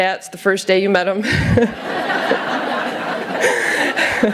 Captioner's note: laughter